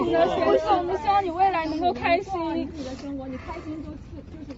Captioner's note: crowd